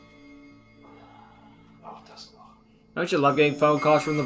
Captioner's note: sighs